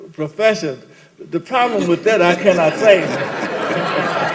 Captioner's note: laughter